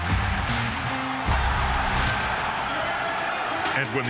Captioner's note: crowd cheering